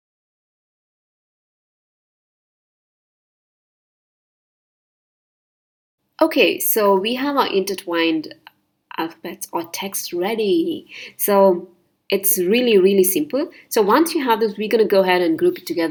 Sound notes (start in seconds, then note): 3.4 silence